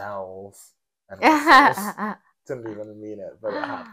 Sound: laughing

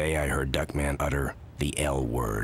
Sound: none

